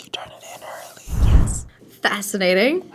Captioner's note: whispers